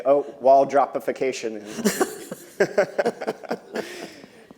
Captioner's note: laughter